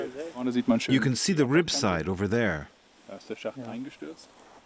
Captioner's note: in German